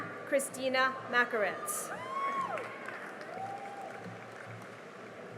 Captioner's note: cheering and applause